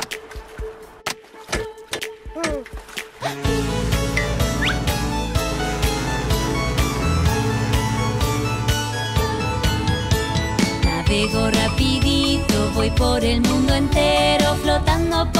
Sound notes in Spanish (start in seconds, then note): 3.2 Música alegre; 3.2 Sonido de bocina de barco